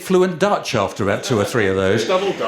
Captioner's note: chuckles